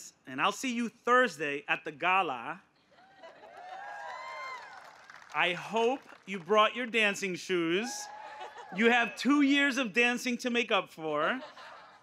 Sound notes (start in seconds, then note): 3.5 applause